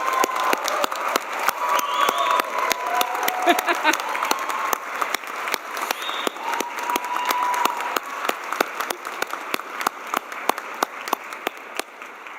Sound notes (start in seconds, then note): 1.7 cheers and applause